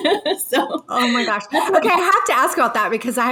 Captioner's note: person laughing